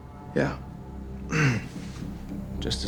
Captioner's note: clears throat